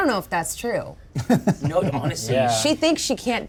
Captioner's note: chuckles